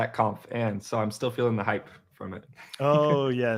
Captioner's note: chuckle